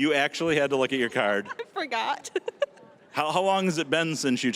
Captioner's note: giggling